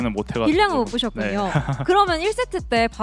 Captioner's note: laughs